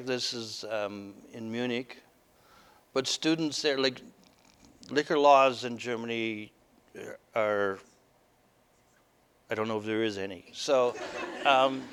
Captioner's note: audience: Laughter